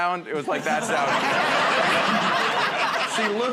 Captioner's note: laughter